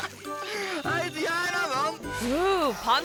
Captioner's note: camera person laughs; camera person speaks in foreign language